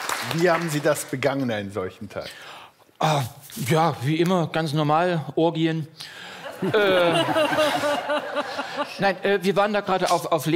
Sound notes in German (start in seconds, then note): 6.4 Lachen